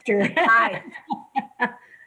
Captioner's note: laughs